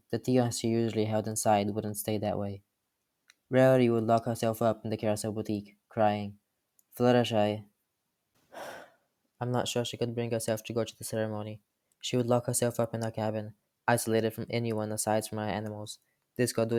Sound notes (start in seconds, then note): 8.5 sigh